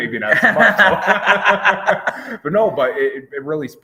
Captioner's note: both laughing